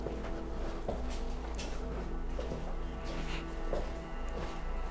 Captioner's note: footsteps echoing